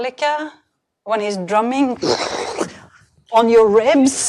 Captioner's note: imitates rapid drumming